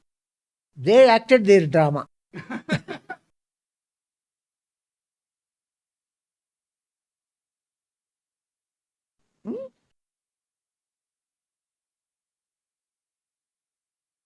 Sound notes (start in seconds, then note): 2.4 laughs